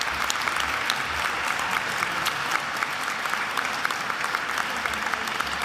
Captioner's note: attendees applauding continues